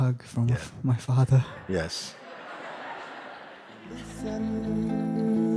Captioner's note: laughter